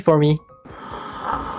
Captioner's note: sluuuuuuurrrppppp